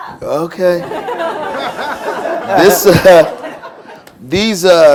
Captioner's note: laughter